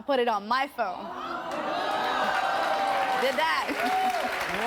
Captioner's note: audience groans and applauds